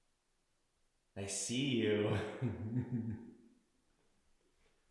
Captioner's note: laughs